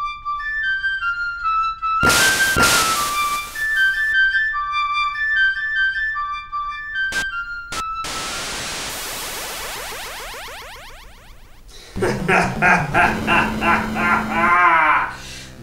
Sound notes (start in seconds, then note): 0.2 playing the flute; 7.7 TV static